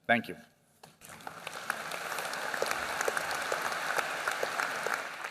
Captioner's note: applause